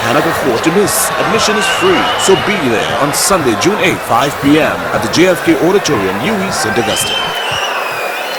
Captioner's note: wild applause and cheering for 22 seconds